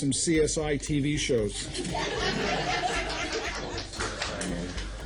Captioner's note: courtroom laughing